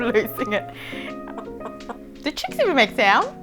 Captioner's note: chicken bawks